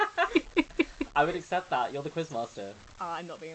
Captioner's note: laughing